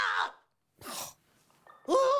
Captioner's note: snorts